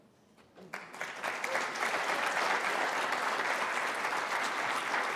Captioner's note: applause